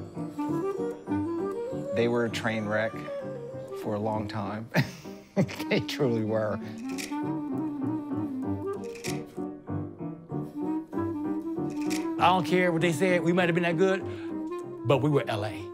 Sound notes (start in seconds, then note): 4.7 chuckles